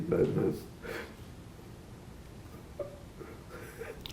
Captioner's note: crying